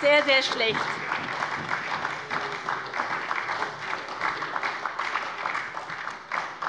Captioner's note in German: Beifall bei der SPD - Zurufe von der CDU